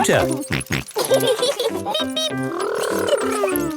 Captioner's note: both laughing